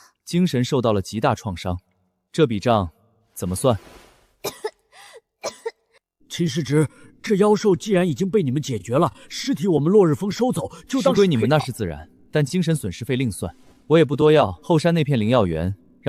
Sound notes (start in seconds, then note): 5.4 cough cough